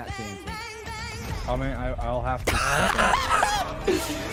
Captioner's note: laughs